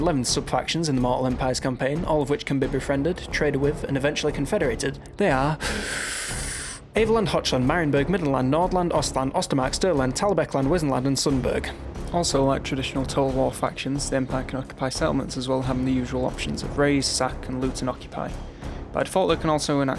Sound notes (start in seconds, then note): 5.6 inhale